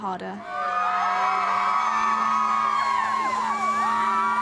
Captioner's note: crowd cheering